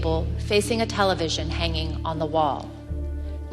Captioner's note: none